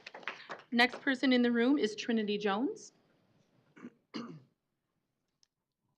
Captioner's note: applause